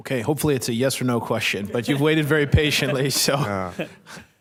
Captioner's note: laughter